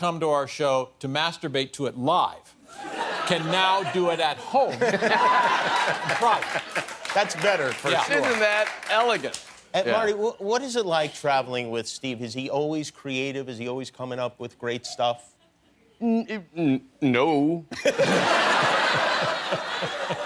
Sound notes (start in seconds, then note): 5.8 laughter; 17.7 laughter